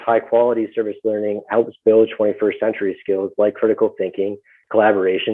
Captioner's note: murmurs